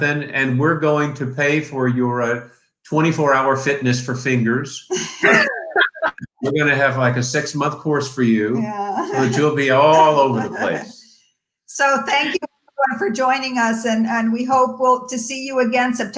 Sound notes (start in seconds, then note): 5.1 all laugh